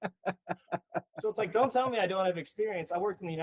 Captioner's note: laughing